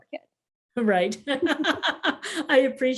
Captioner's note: laughs